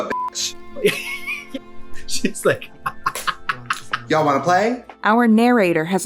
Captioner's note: laughter